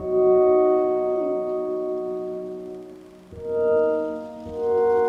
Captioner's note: phone chimes